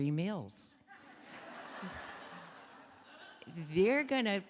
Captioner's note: audience laughing